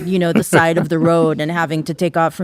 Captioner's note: laughing